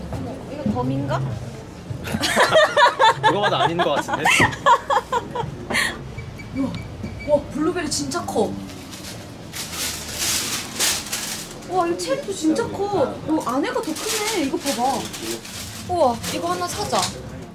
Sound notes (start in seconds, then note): 2.1 laughing